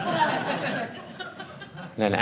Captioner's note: audience laughing